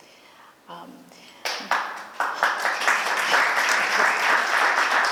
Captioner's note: applause